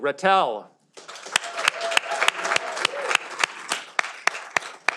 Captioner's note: audience applauding